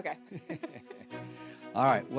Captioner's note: laughing